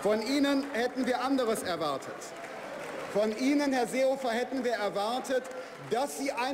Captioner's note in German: Beifall bei der FDP – Widerspruch beim BÜNDNIS 90/DIE GRÜNEN